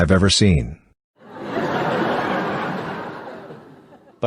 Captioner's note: few people snicker